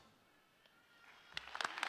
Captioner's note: applause